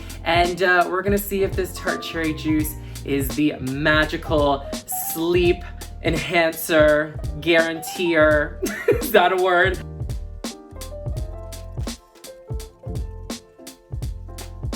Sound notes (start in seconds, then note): 8.8 laughs; 10.3 relaxed jazz music